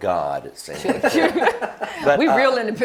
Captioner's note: laughter